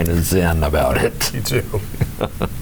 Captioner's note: laughs